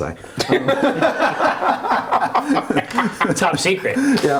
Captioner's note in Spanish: risas